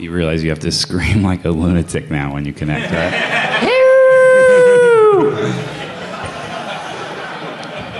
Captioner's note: laughter